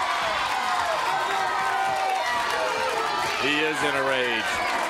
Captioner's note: crowd cheering